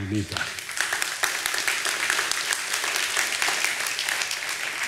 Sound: audience applauding

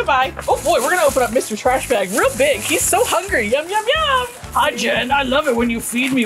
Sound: high-pitched voice

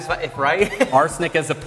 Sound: laugh

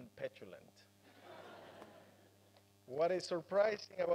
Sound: laugher

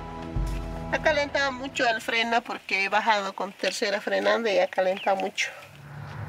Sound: speaking in foreign language

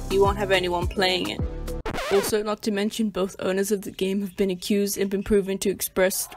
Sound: record Stop Sound Effect

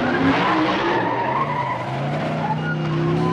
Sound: more screeching; circus music

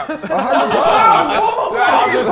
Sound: Sidemen laughing

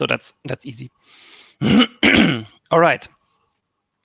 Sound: clears throat

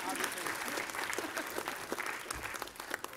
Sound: applause

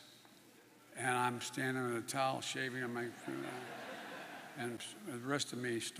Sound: laughter

